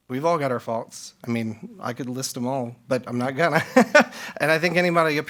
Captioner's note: laughs